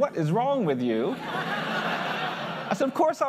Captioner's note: laughter